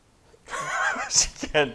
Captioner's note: silence; laughing